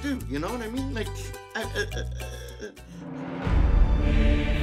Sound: stammering; choir singing in Latin

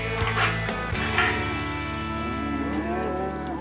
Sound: mooing

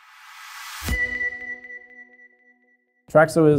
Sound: bell rings

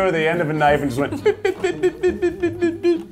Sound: beeping

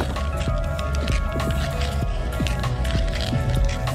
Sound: skating sounds

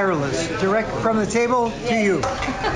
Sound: speaking Spanish

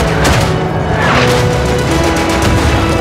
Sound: explosions and machine gun fire

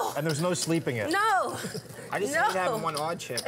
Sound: laughing

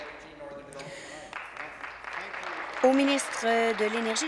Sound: applause

